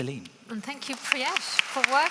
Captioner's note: audience clapping; clapping